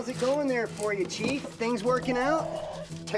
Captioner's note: chirps